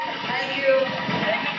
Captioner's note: street sounds